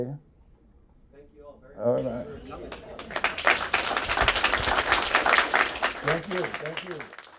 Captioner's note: applause